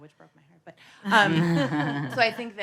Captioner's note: audience laughing